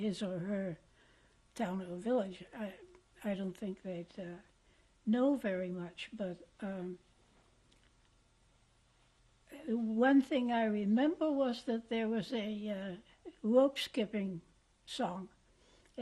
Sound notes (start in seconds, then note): 6.6 pauses for 3 seconds